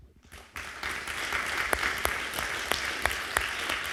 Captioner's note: crowd clapping